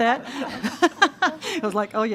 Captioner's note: all laughing